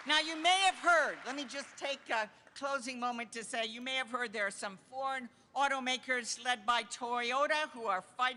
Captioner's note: applause